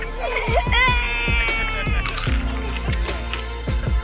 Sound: laughing

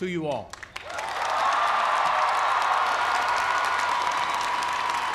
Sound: cheers and applause

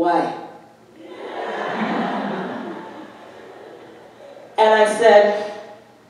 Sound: audience laughing

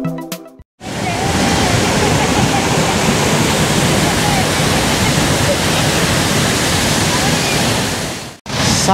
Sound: the sound of the falls

